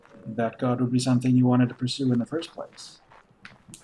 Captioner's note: none